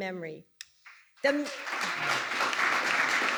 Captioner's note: applause